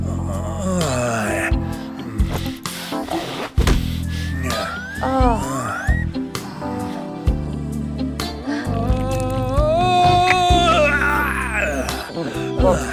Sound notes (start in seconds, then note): 0.0 lips smacking; 0.0 moaning; 2.3 unzipping; 4.2 both moaning; 8.3 groaning